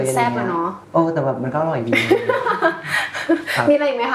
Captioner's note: laughs